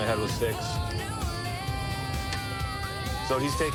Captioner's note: sirens wailing